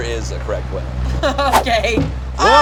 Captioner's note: laughs